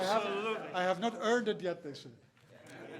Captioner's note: laughter